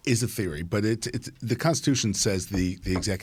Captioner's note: cup thudding